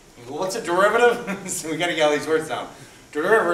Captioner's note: chuckles